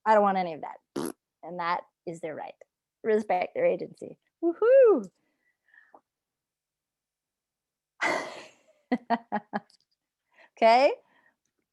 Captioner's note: raspberry sound effect